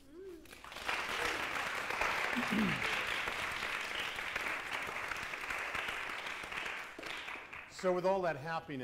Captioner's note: applause